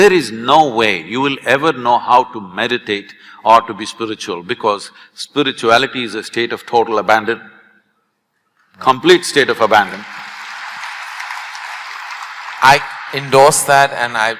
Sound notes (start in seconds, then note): 9.6 applause